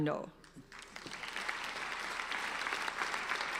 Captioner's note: applauding